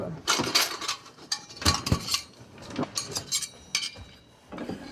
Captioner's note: spoons clattering